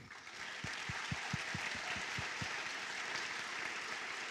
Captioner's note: applause